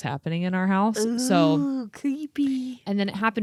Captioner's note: gasps